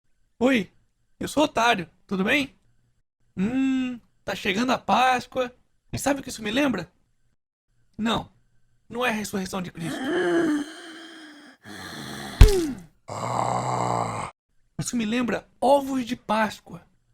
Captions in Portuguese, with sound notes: Oi, eu sou o otário, tudo bem? Hummm, tá chegando a Páscoa... E sabe o que isso me lembra?! Não... não é a ressureição de cristo! 0:00:11.150,0:00:03.020 [barulho de zumbi saindo da tumba] [Zumbi reclamando após ser atacado] Isto me lembra Ovos de Páscoa!